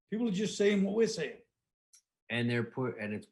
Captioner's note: none